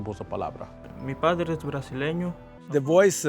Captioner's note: speaking in Spanish